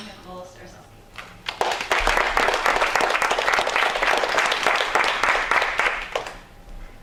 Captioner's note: applause